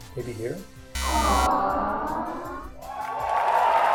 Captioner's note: buzzer